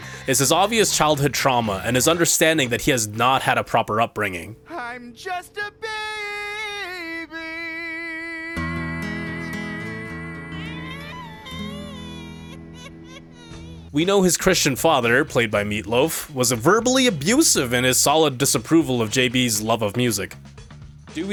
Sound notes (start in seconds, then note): 10.4 literally cries like a baby